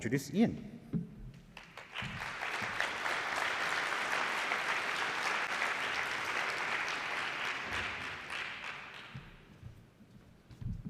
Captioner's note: applause